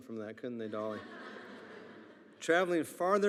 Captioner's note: attendees laughing